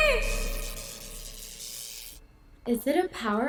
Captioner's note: lights buzzing